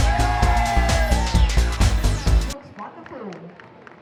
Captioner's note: clapping